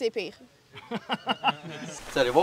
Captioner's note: laughs